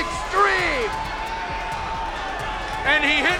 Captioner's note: crowd cheering